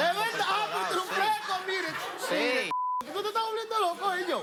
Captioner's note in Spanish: Risas